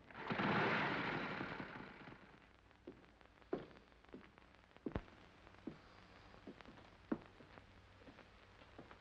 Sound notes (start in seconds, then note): 0.0 motorcycle engines start; 3.5 Eddie's footsteps